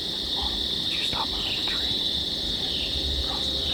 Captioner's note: whispering